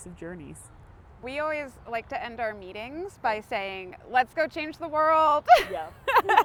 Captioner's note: laughs